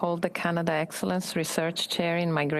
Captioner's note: speaking French